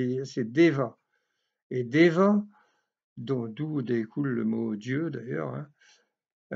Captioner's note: in french